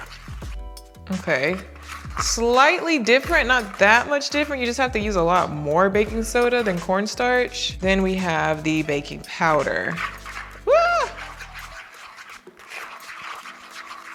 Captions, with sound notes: Okay. Slightly different, not that much different. You just have to use a lot more baking soda than cornstarch. Then we have the baking powder. (knife and bowl rattling) Woo.